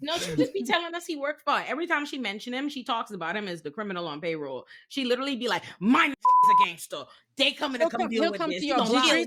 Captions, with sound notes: No, she just be telling us he worked for it. Every time she mentioned him, she talks about him as the criminal on payroll. She literally be like, "Mine a (beep) is a gangster. They coming to deal with this." He's still coming to you a lot.